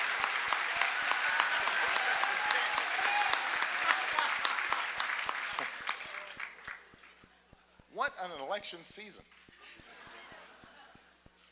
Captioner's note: laughter, applause